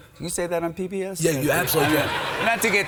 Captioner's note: audience laughs